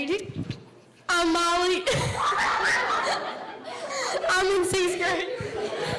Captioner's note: girls laughing